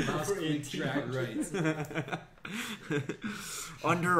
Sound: laughs

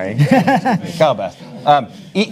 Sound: panelists chuckle

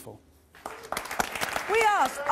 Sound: audience applause

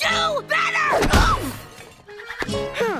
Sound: grunting

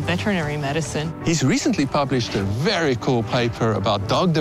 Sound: voiceover

